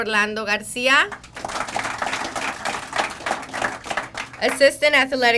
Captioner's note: crowd applauding